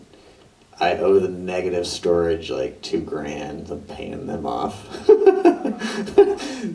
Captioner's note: laughs